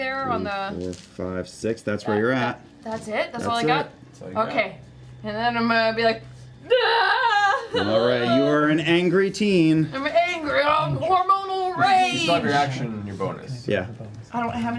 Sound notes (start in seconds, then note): 6.6 crying noises